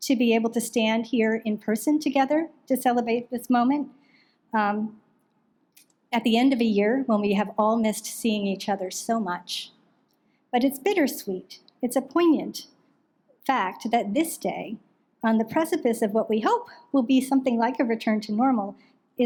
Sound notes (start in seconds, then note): none